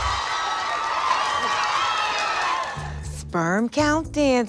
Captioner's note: crowd cheering